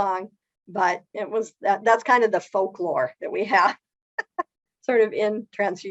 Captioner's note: laughs